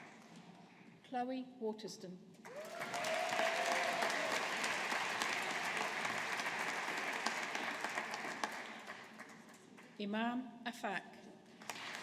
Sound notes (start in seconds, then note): 2.4 audience applauding